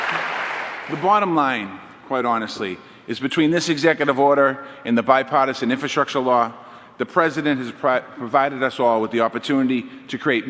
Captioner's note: applause